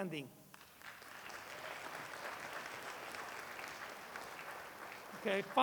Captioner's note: applause